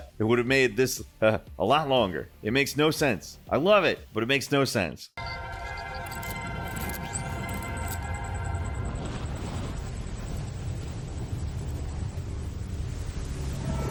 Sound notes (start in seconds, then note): 5.2 bright orchestral music; 8.3 air whooshing